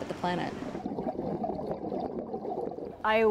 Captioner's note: water gurgling